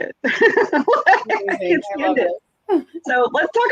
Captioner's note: laughs